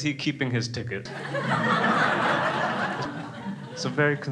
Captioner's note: crowd laughs